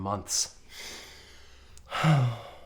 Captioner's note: sniffs